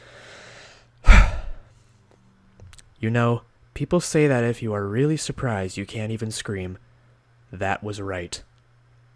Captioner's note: exhales